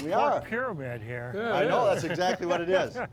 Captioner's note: laughing